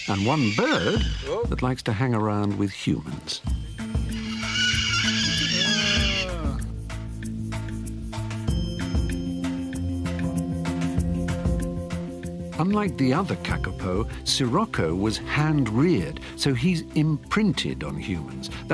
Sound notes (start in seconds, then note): 4.1 Sirocco screeching; 4.4 adventurous music